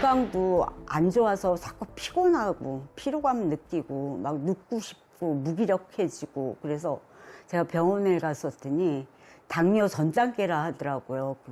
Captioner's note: voiceover